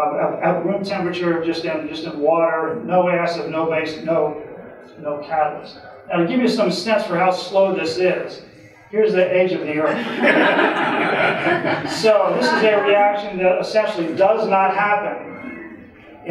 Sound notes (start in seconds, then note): 9.8 audience laughing